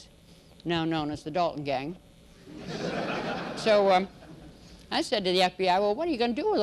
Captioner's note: laughter